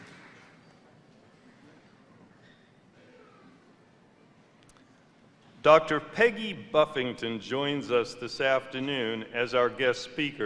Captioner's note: applause